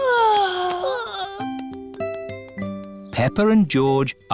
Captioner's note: peppa and george yawning